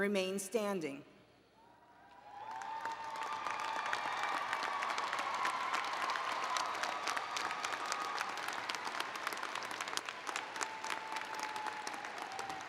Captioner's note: applause and Cheering